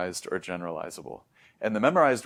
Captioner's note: inhales